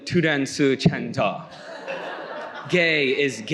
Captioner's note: Korean accent